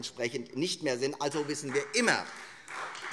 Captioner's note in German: Beifall Freie Demokraten und vereinzelt AfD